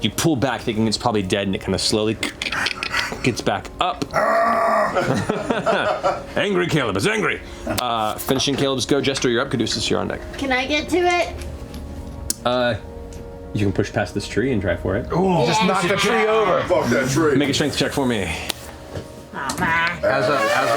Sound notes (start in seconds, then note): 2.7 cracking; 4.1 growling